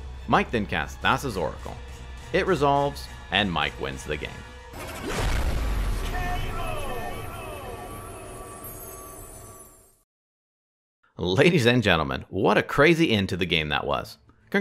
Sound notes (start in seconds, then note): 6.6 man yelling K.O